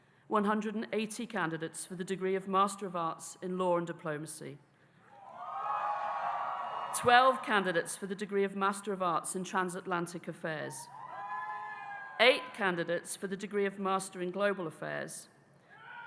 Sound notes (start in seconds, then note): 5.2 audience cheering; 11.0 audience cheering